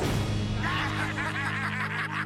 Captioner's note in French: créatures qui rient